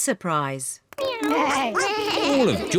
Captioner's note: all making animal sounds